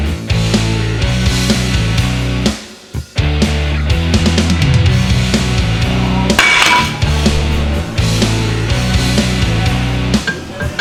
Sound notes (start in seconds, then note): 0.7 thud of shock hitting floor; 5.7 clattering